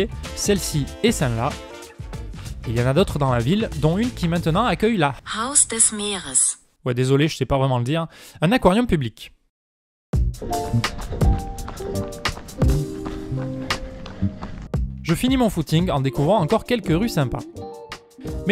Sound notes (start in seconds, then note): 5.5 pronounced in an artificial voice